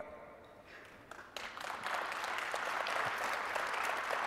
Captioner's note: audience applauding